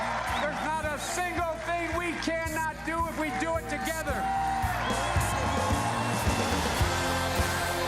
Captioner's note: cheers and applause